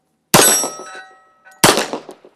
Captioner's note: bang